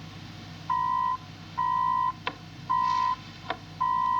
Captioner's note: comunicador emite um sinal sonoro